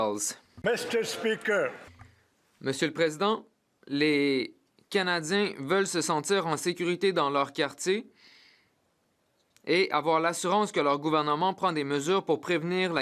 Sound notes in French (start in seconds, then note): 1.5 voix de l'interprète